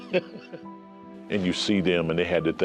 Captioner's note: laughs